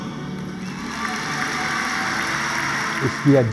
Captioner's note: applause